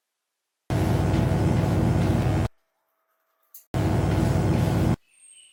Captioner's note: electric buzzing